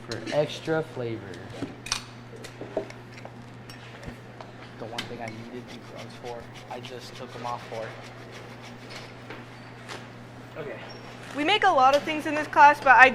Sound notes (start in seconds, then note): 2.4 objects clattering; 9.2 zester grating